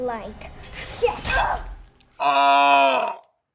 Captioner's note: piece of dish breaks; Anna grunts forcefully